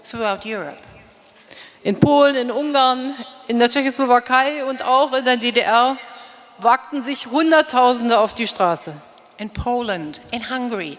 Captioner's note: speaking in German